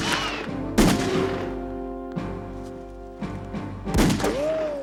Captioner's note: gun clicking